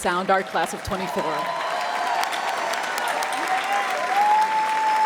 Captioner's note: crowd cheering